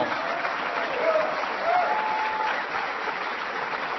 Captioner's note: applause